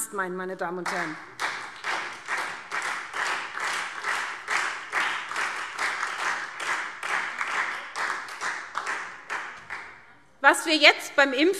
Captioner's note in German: Beifall SPD und Freie Demokraten